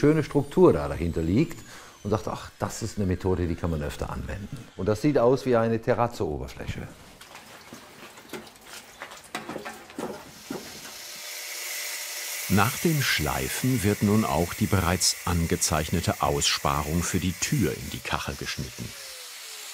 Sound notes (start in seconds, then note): 8.7 splashing; 11.2 machine humming